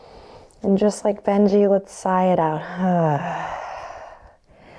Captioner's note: sighs